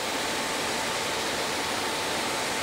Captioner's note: loud rustling